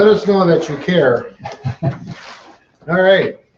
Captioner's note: chuckles